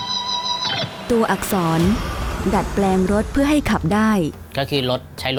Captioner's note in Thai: เสียงรถยนต์